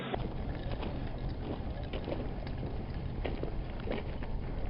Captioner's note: footsteps thudding